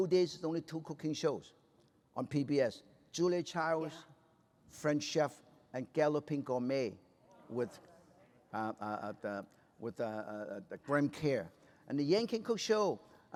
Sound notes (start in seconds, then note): none